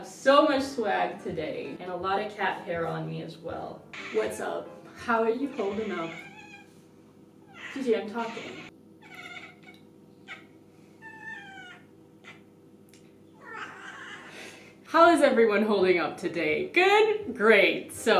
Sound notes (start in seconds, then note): 11.0 meowing